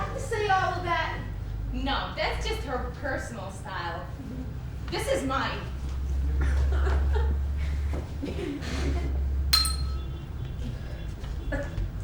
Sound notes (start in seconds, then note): 9.5 ding